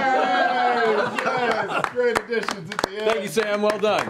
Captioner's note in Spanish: risas